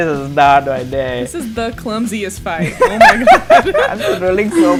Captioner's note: laughter